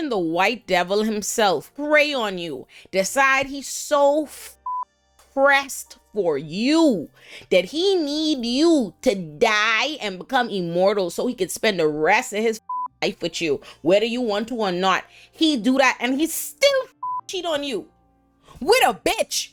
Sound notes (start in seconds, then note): 4.6 beep; 12.6 beep; 17.0 beep